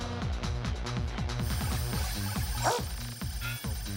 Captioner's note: dog Barks